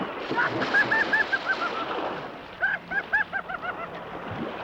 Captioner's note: Pablo laughing